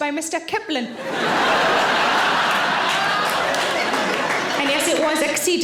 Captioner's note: audience laughing